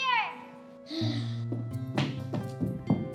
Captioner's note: sighing